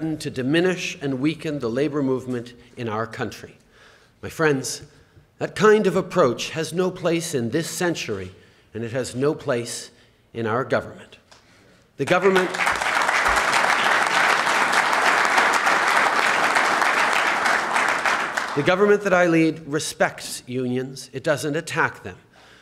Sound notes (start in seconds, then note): 16.2 applause